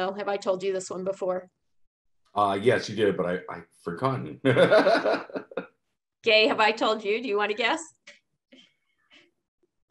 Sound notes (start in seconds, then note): 4.4 laughs